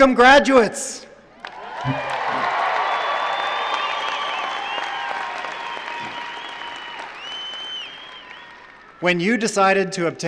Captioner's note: cheering